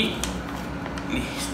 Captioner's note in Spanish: Plástico arrugándose